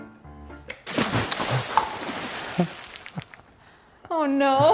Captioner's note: liquid splashing